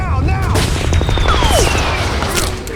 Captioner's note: bullets whizzing; gunshot blasts